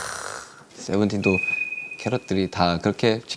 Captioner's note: ring-♬